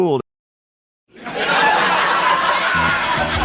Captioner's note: laugh track